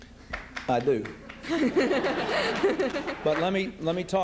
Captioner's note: laughs